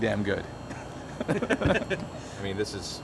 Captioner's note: both laugh